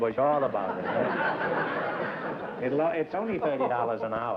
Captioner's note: laughter